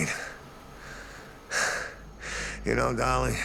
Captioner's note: sighs